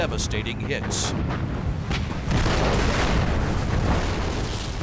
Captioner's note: explosion